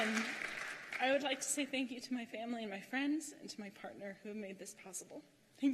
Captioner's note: cheers and applause